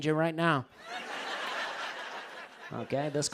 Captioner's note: laughter